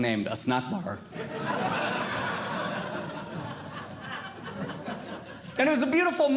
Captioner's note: audience Laughing